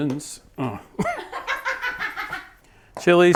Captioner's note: laughing